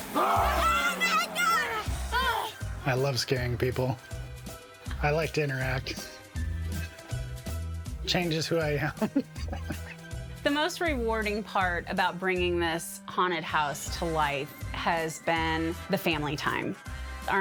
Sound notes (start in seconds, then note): 0.3 clown groaning; 4.2 jaunty music; 7.1 laughing; 9.2 jaunty music